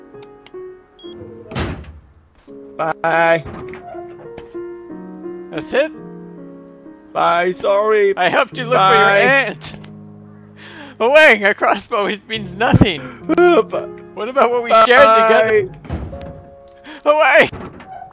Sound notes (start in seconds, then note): 12.4 sobs